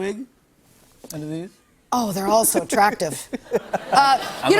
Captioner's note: laughter